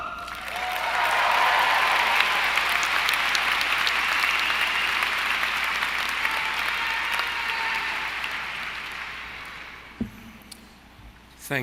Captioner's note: cheering & Applause